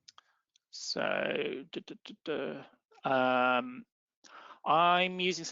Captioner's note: makes animated tone